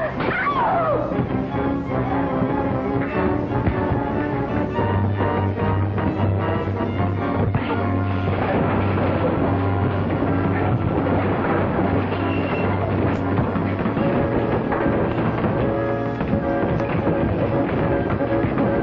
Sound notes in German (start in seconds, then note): 0.0 Frau schreit; 0.1 Ohrfeigen; 2.2 dramatische Musik; 9.3 Möbel klappern